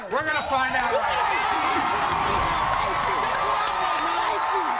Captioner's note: audience cheers